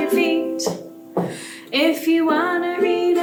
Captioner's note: stomp, stomp